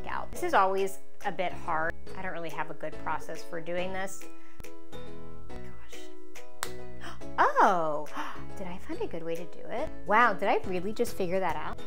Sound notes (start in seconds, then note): 6.5 highlighter pen snapping